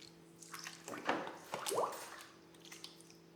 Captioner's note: splashing